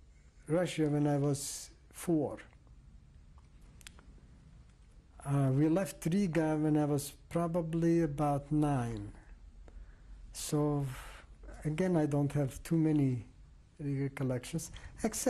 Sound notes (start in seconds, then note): 2.3 pauses for 3 seconds